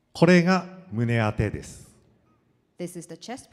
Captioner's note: speaking foreign language